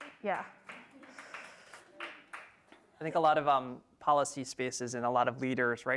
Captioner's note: applause